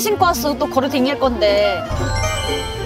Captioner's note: tsk